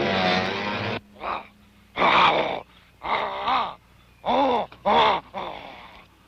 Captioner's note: grunting